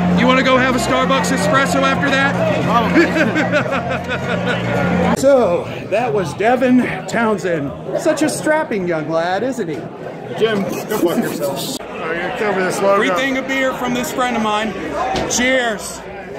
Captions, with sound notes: You wanna go have a Starbucks espresso after that? (laughter) So, that was Devin Townsend. Such a "Strapping Young Lad", isn't he? - Jim, go fuck yourself. - (snickers) Free thing of beer from this friend of mine. Cheers!